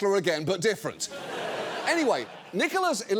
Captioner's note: studio audience laughs